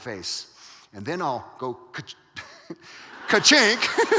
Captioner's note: audience laughing; laughs